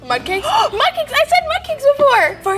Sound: gasps

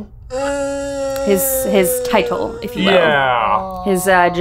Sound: groaning

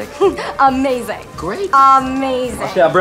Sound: chuckles

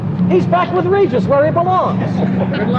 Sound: laughter

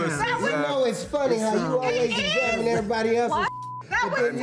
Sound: beep

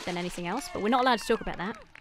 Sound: onlookers cheering

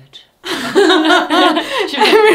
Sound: both laughing

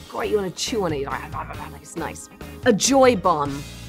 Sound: grumbling

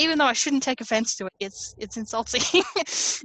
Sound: laughs

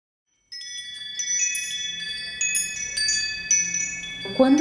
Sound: bells ringing

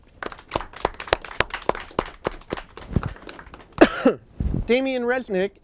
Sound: applause

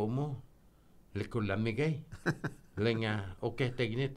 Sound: laughing

